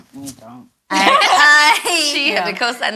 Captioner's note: all laugh